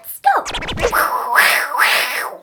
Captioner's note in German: Sie faucht böse